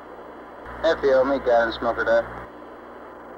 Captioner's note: mission Control Audio